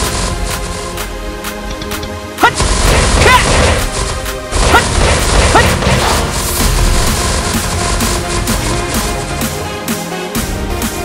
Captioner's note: lightning Bolts